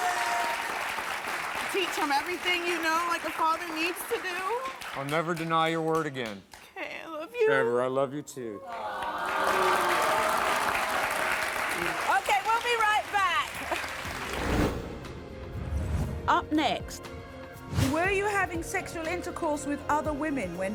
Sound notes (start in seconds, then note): 8.6 audience applauds; 13.9 dramatic music